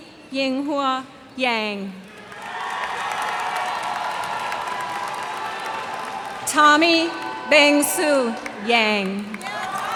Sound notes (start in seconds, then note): 2.1 cheers and applause